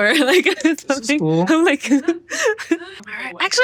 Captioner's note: chuckles